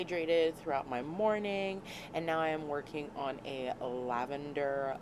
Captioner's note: none